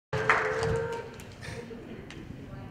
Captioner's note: clapping